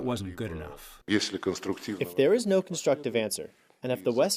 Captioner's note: through translator